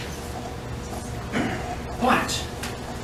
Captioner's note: quietly clears throat